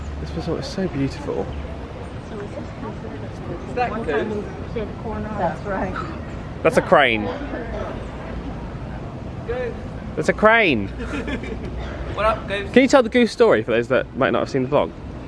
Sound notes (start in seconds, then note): 10.9 laughs